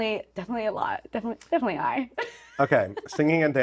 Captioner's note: laughing